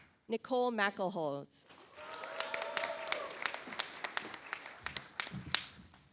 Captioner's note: audience applauds